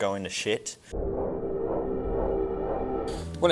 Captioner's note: deep ambient sound